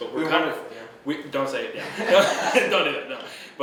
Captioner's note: laughing